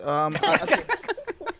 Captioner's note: laughs